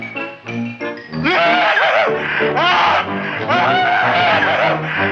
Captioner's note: Wilbur screaming